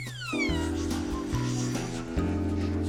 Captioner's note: eerie whispering